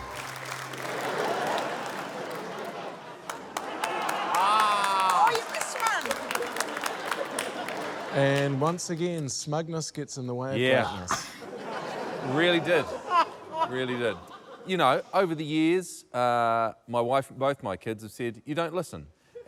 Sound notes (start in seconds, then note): 0.3 cheering, applause; 3.6 all exclaim; 13.0 laughs